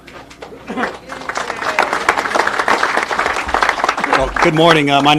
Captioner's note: people applauding